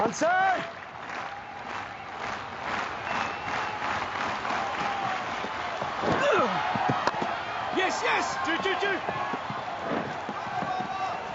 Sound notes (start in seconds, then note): 0.6 rhythmic clapping; 6.1 grunts; 7.7 bat cracks against cricket ball